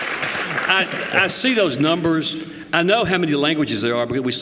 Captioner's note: applause